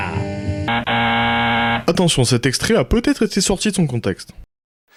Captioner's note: voiceover